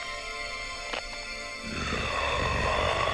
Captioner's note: neck cracks; mummy snarling